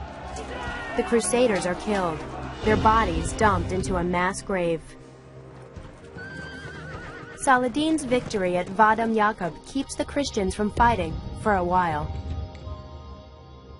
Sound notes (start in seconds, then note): 6.1 horse whinnies